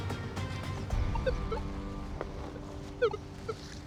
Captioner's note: beeping softly